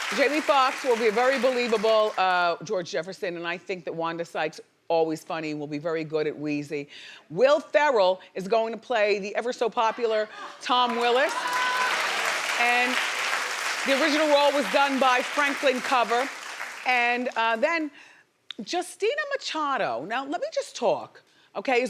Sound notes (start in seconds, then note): 10.8 audience applauding